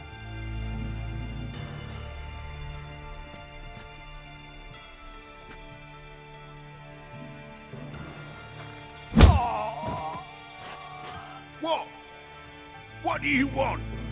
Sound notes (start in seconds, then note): 9.1 punch lands; 9.1 groan